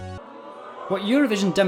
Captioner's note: booing